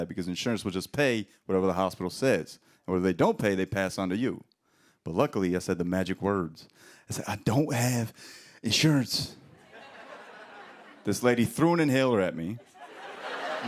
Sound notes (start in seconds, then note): 9.5 laughter